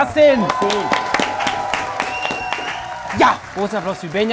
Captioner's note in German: Jubel, Applaus